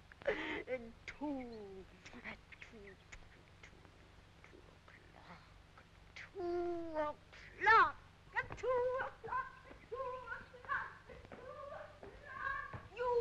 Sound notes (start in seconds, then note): 3.0 Rosalind kissing